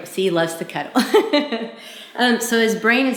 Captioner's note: laughs